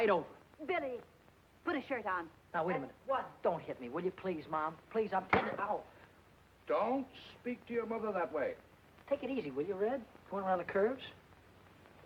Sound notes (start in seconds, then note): 5.3 towel snapping